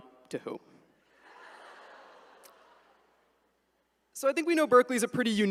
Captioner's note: attendees laugh